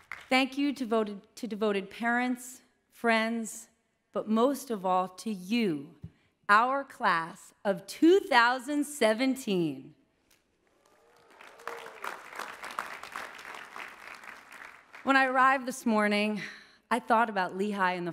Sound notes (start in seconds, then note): 10.7 applause